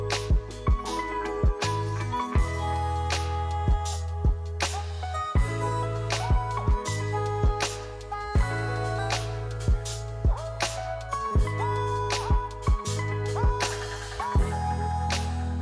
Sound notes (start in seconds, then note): none